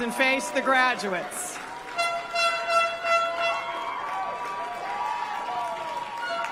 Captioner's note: applause; cheering and applause